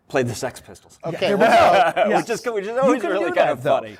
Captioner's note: laughter